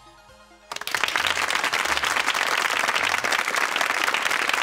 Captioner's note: audience applause